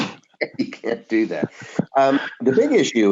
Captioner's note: laughs